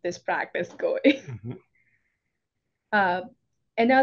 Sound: laughing; humming

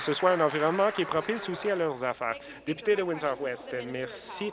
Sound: applause

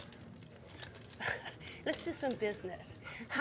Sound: chuckling

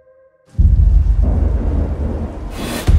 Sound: thunder

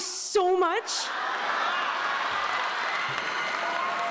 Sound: applause

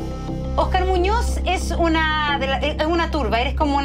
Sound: speaking Spanish

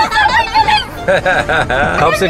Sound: man laughing

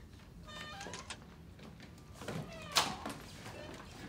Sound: door creaking

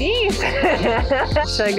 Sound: laughs

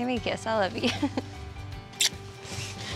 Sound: smooch

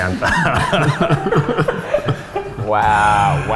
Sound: laughter

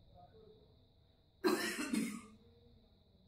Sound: coughing

